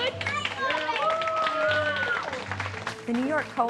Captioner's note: cheering and applause